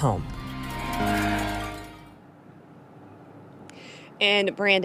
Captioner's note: bell ringing